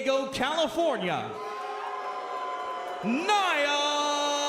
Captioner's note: crowd cheering